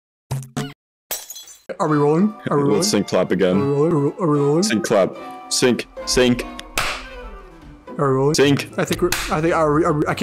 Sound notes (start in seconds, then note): 6.7 clap that distorts reality